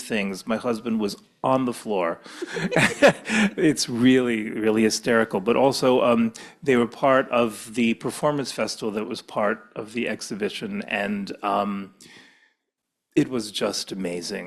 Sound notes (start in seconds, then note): 2.2 laughs; 2.2 giggles